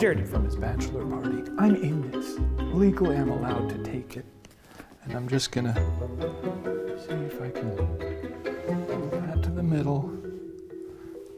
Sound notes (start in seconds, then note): none